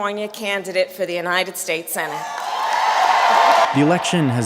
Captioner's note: audience cheering